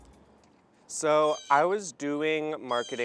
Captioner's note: blue Jay calls